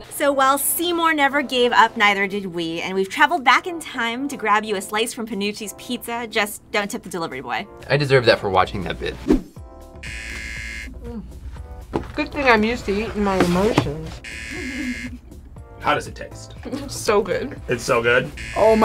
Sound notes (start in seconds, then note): 10.0 buzzer rings; 14.2 buzzer rings; 16.9 laughs